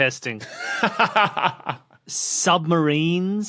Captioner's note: laughs